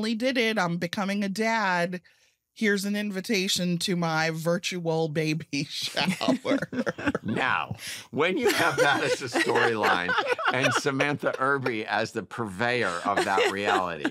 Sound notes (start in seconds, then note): 6.2 laughs